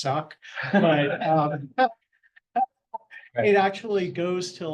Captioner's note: laughter